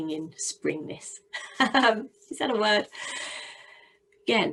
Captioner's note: laughs